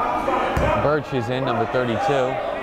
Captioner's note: yelling